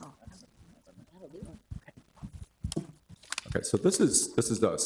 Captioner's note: people chatter distantly